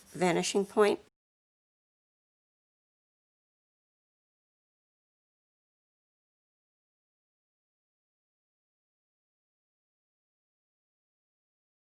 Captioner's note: sketching